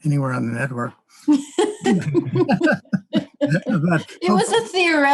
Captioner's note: laughing